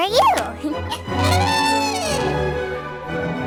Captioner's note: elephant trumpets